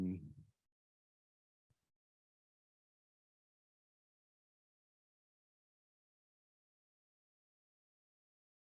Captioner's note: silence